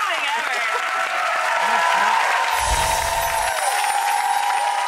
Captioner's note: applause, cheering